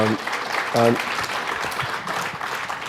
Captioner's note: applause